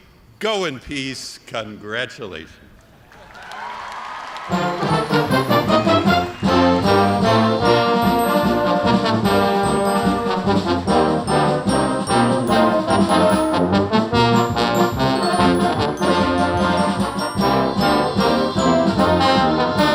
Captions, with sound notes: Go in peace! Congratulations! (cheers and applause) (band playing)